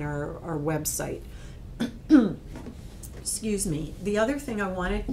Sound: coughs

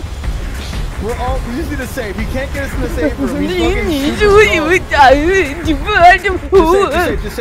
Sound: panic noises

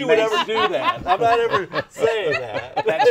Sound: laughing

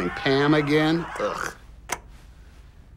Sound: TV shuts off

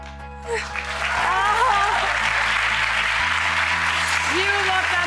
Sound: cheers and applause

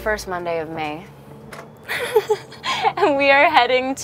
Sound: Vanessa chuckling

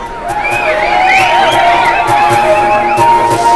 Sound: people whistling

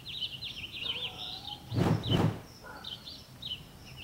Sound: whoosh, whoosh; dog barking in distance

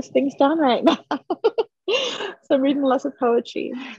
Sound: chuckles

